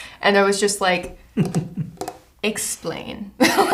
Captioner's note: taps fingernails on table